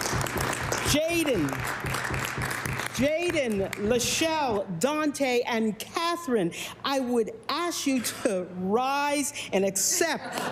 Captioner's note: cheering and Applause